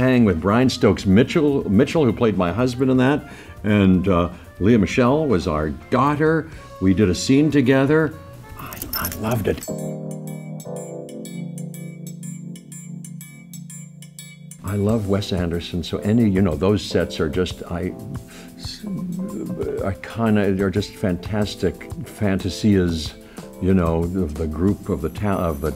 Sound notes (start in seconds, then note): 8.6 dog tags jingle; 9.6 lively jazz music